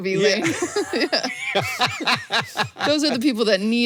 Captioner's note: both laugh